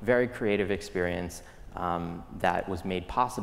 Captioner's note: none